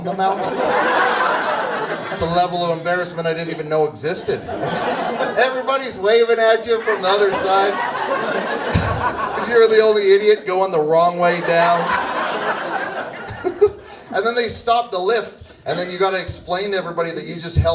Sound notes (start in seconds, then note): 4.1 laughs; 11.2 audience laughs